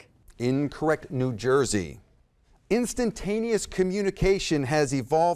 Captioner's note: none